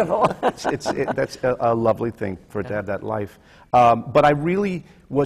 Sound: laughs; laughter from the panel

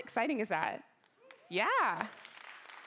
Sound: cheering

